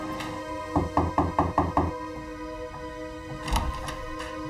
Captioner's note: knocking on door